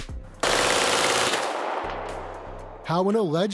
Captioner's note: rapid gunfire